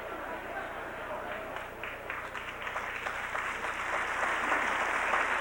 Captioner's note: applause